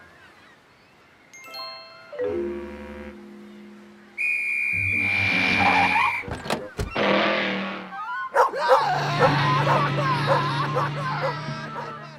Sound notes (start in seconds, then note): 6.7 door opens, closes; 8.3 barking